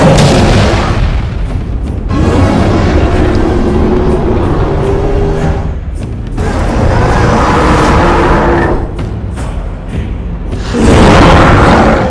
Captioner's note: Kong Roaring loudly